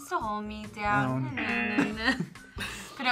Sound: buzzer; both laugh

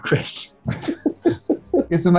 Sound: giggling

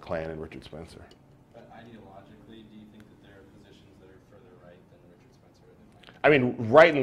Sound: pause

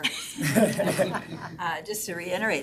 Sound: all laughing

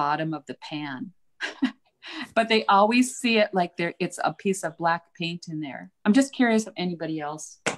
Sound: laughs

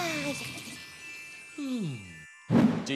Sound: all snore

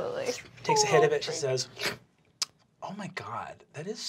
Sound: slurping

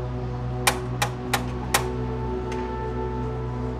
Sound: door knock

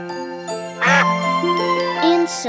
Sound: quacking

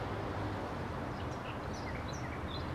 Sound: birdsong

